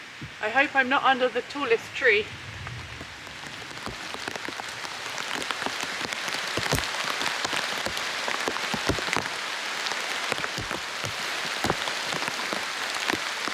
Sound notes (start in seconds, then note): 0.0 rain starts again; 2.8 rain